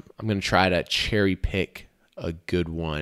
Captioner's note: none